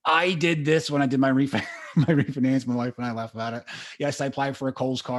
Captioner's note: laughs